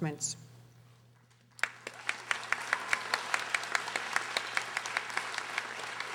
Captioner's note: audience applauding